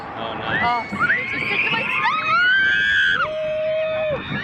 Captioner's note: screaming